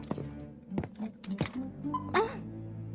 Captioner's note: footsteps approaching